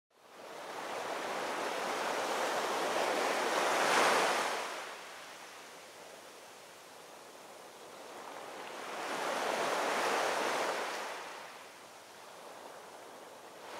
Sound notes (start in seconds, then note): 0.5 waves crashing